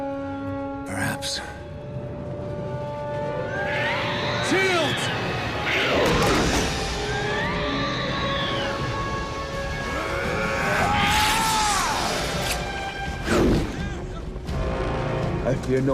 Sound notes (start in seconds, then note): 3.4 creatures screeching; 10.6 Odysseus yelling; 10.6 sword scraping; 13.7 ominous music